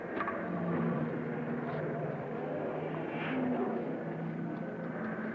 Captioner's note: cars revving